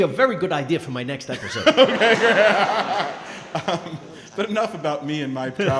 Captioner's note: laughing